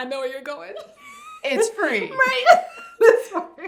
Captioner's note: laughs